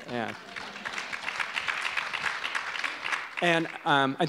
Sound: audience applause

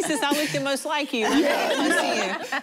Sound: laughter

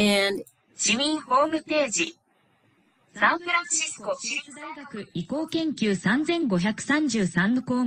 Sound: non-english speech

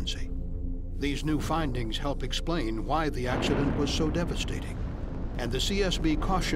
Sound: sound of explosion

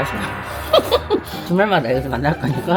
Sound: boisterous laughter

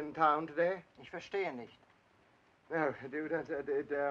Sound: speaking in German; stammering

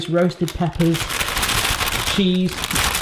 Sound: bag crinkling

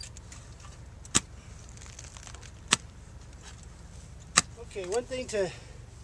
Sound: digging sounds

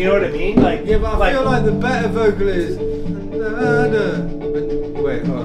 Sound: humming

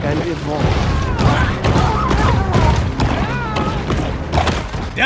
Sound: banging and screaming

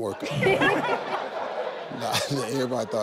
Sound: people laughing

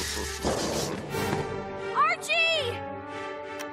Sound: chuckling

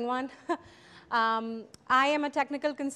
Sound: chuckle

